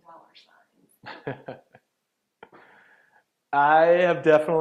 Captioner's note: laughing